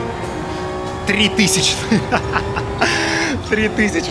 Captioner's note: laughing